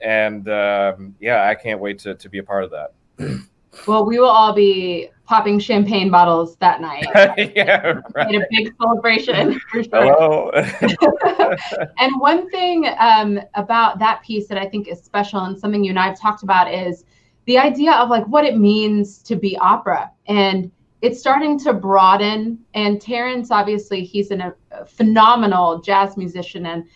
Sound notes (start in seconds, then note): 9.6 both laughing